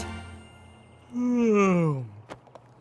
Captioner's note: yawn